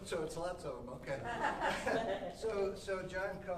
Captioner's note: audience laughing